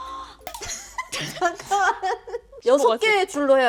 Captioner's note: laughing because she loves it